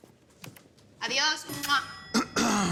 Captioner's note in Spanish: Carraspea